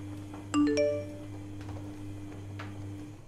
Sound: phone notification tone

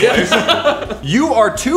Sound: laughter

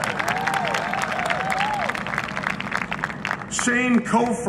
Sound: applause and cheering

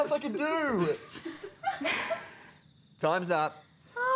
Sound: laughter

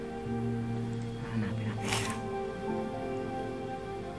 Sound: sniffles

